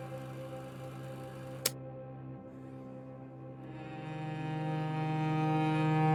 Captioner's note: film reel clicks off